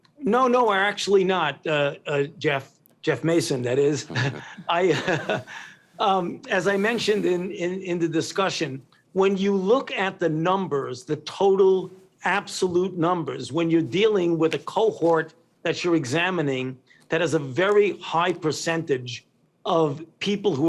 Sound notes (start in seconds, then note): 3.8 laughs